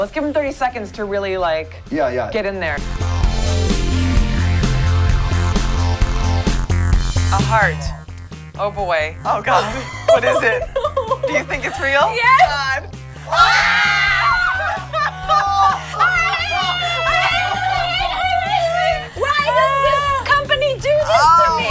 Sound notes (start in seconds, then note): 13.6 screams; 14.5 laughs; 17.5 screams